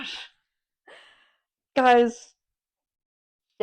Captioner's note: sigh